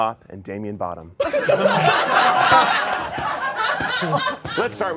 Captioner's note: all laughing